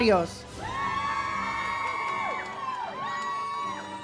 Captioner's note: audience cheers